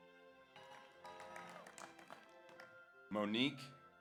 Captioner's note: audience applauds; audience cheers